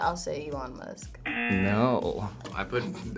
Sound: buzzer

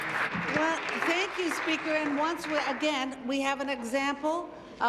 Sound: applause

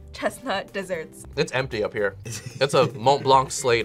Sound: laughs

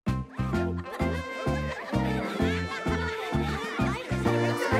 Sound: excited chattering

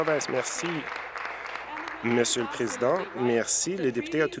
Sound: applause

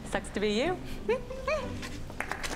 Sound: giggling; audience clapping

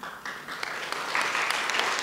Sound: applause

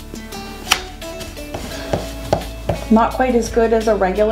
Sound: eraser rubbing

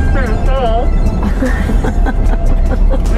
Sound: laughs

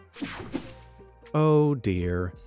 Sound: graphics whooshing

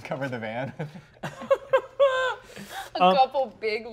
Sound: laughing

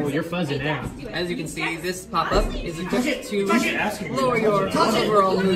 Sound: shouting

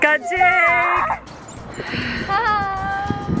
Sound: groaning

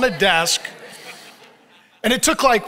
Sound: audience laughs

